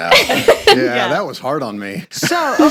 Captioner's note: group laughing